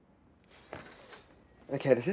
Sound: scoffs

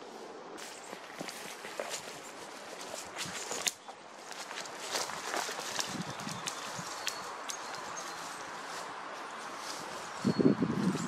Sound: footsteps in branches and leaves, chickadees chirping, car passing by, wind

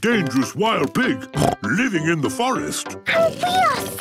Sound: snorts

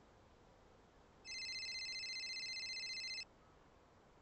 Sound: phone rings

